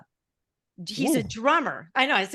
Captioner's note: grunting